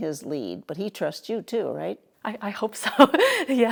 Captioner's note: laughs